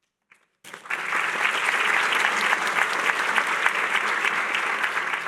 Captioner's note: applause